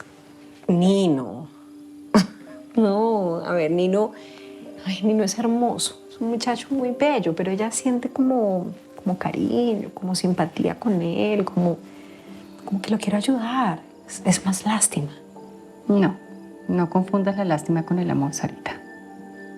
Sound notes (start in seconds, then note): 2.2 chuckles